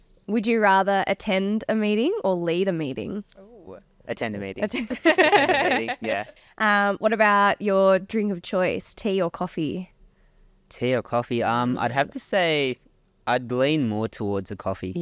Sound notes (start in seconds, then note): 4.7 laughing